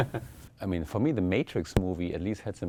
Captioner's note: laugh